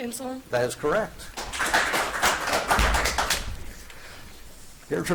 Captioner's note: audience applauds